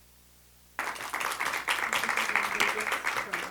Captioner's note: audience applauding